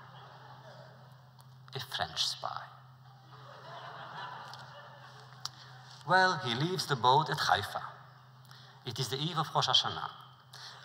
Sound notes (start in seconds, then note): 3.2 laughter